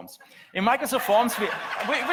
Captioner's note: audience laughs